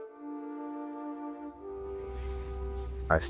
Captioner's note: ambient city noise offscreen